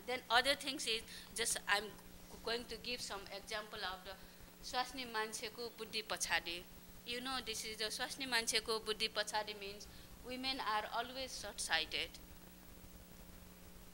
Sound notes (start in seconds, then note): 4.7 non-english speech